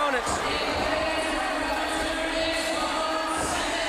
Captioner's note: crowd cheering